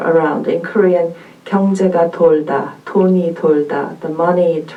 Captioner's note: speaking in Korean